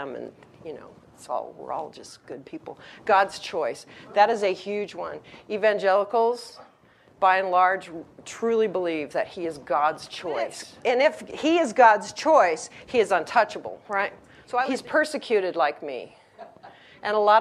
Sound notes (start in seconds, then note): 10.3 audience member yells; 16.5 audience laughs